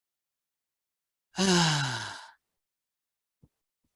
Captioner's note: gasps